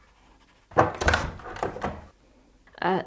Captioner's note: door opens